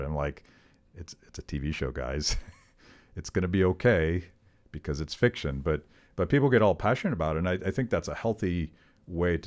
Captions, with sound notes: I'm like, it's a TV show, guys. (chuckling) It's gonna be okay, because it's fiction. But people get all passionate about it, and I think that's a healthy way